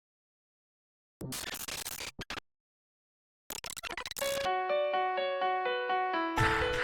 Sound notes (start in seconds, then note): 1.3 glitch sound effects